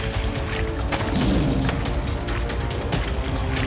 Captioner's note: lion roars